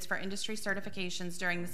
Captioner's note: none